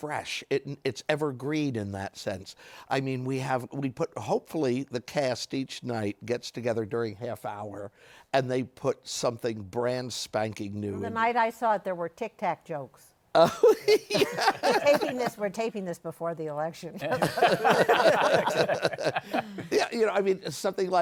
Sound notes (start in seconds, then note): 13.4 laughing; 17.0 laughter